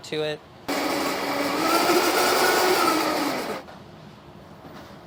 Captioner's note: blender whirring